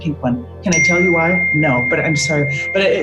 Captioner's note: phone dings